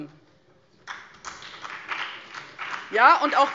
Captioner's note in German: Beifall